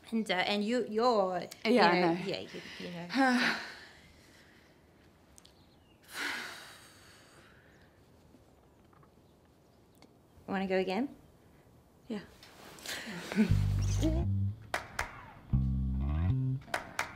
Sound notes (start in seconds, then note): 3.6 Jess sighs; 6.0 exhales; 12.8 both lightly chuckle